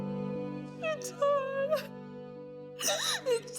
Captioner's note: sobbing